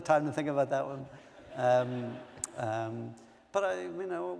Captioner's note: laughter